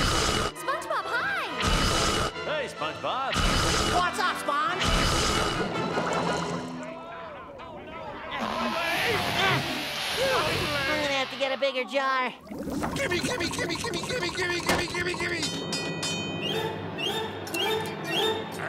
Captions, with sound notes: SpongeBob, hi. Hey, SpongeBob. What's up, Sponge? [mumbled chatter] My leg! My leg! I'm gonna have to get a bigger jar. Gimme, gimme, gimme, gimme, gimme, gimme, gimme, gimme. [dinging]